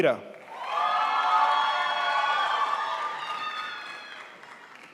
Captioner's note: crowd applauds